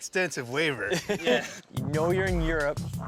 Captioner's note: laughs